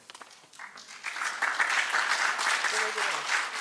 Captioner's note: applause